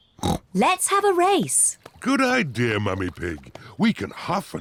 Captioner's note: snorts